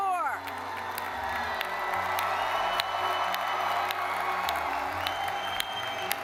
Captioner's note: graduates and audience cheering